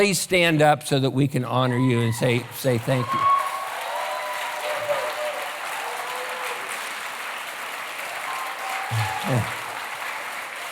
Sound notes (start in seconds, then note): 3.7 cheering, applause